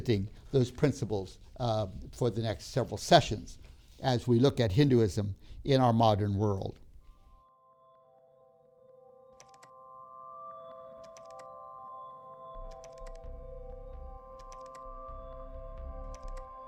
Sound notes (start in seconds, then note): 7.4 instrumental music plays; 14.4 keyboard clicking